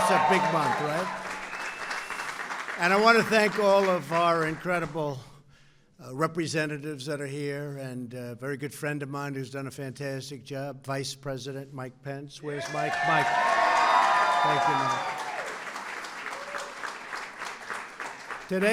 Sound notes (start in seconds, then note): 0.0 applause; 12.5 applause